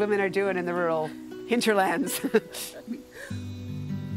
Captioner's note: both chuckling